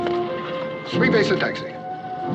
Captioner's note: speaking French